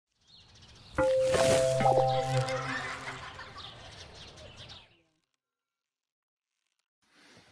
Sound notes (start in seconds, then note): 1.0 xylophone scale chimes; 1.9 children laughing